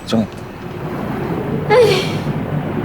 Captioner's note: sigh